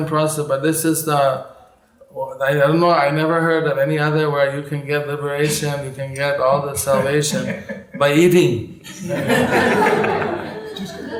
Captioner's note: laughter